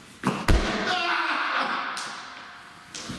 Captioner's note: screams